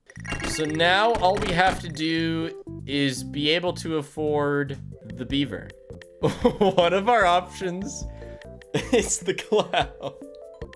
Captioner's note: laughs